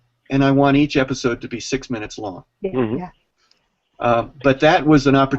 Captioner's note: sounds of agreement